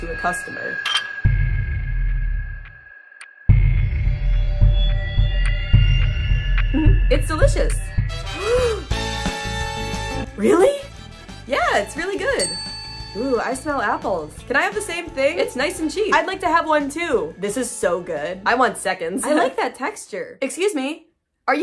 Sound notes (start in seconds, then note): 0.0 intense music; 8.4 gasp; 8.8 celebratory music; 12.4 bell dings